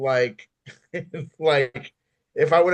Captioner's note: laughs